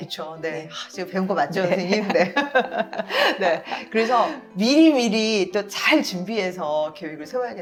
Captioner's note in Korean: 웃음